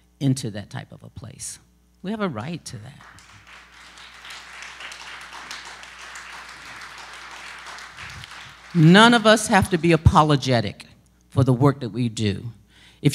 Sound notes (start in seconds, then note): 2.9 applause